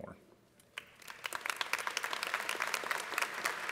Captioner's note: applause